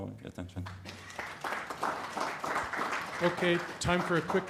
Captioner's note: applause